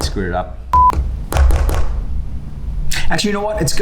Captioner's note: beep